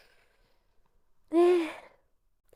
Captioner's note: sigh